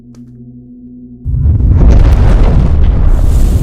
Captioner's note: mysterious man snaps his fingers